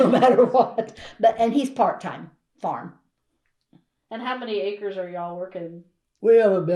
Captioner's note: laughs